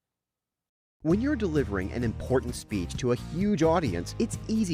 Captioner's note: voiceover